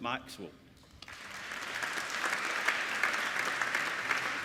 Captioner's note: applauding